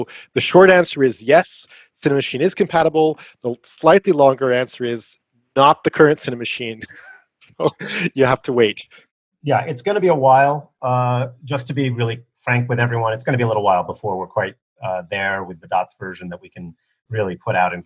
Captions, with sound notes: So the short answer is "yes," Cinemachine is compatible, the slightly longer answer is, "Not the current Cinemachine". [LAUGHS] So, you have to wait. Yeah, it's going to be a while, to be really frank with everyone, it's going to be a little while before we're quite there with the DOTS version that we can really put out